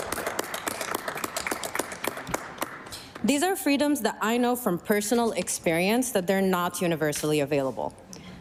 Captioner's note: applause